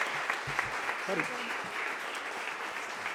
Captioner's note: applause